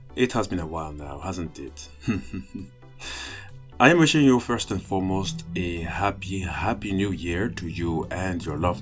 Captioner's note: laughs